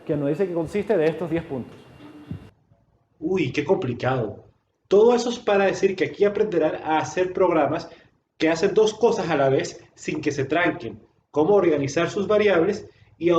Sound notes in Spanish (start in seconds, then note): 2.1 Micrófono cruje